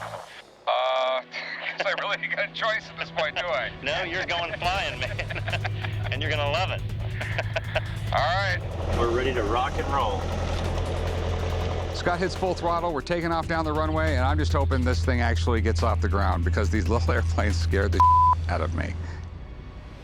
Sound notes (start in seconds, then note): 6.3 laughs